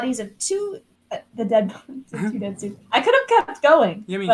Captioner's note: laughing